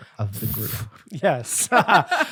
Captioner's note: laughing